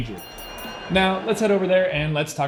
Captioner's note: boxing bell rings